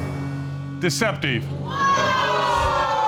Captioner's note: audience exclaiming